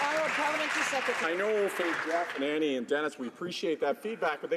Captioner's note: some Applause